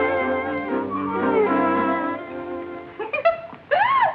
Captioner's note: laughter